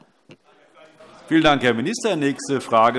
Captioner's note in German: Zurufe DIE LINKE